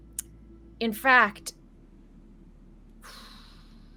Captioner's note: sighs